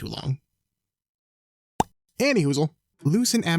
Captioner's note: pops lips